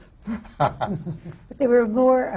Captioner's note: laughter